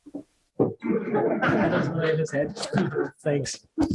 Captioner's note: laughing